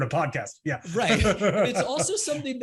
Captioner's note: laughs